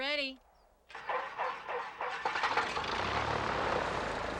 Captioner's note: engine whirring